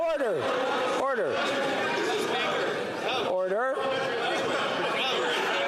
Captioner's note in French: voix de l'interprète